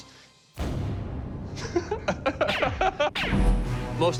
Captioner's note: laughs